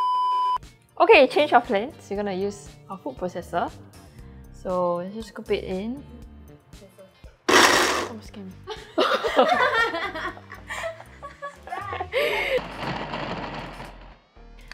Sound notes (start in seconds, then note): 7.5 buzzzz